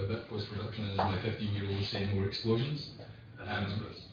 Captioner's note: audio distorts